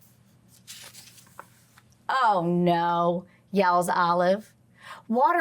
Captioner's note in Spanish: crujido de página